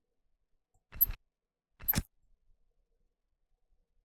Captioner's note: screwdriver sound